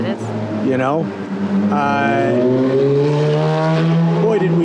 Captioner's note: engine rumbling